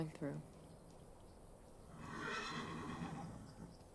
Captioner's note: horse whinnies